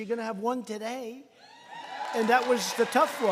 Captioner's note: applause